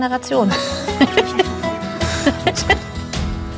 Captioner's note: laughter